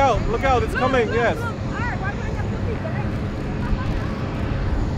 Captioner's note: chattering